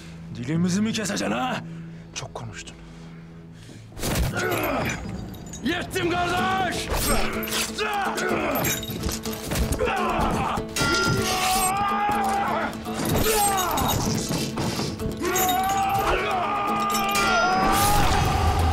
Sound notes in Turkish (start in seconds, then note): 3.9 Vurma sesi; 7.6 Bağırma sesleri; 15.0 Kılıç sesleri; 15.2 Bağırma sesleri